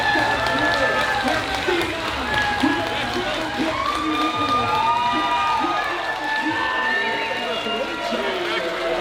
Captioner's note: crowd cheering